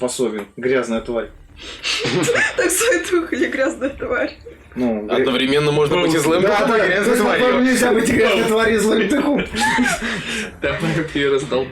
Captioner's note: some laughing ensues